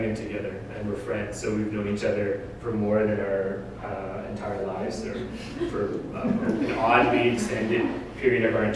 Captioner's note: audience: Laughter